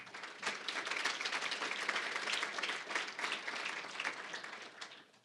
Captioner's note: applause